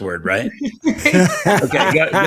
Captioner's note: all laughing